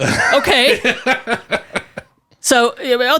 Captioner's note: laughs